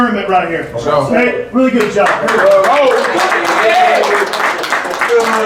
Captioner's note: applauding